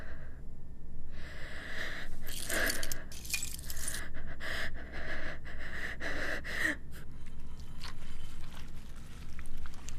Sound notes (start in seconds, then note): 2.3 clinking; 7.4 squishing